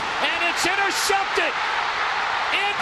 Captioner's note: crowd cheering